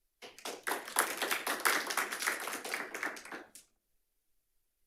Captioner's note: audience clapping